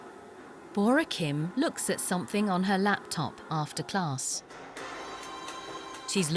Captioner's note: voiceover